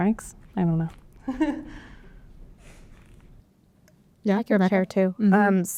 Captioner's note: laughter